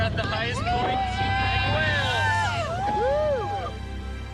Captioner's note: all cheering